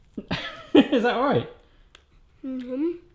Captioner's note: laughs